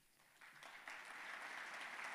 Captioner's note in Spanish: aplausos